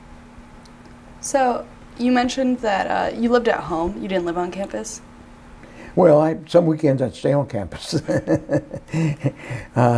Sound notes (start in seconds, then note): 7.8 laughs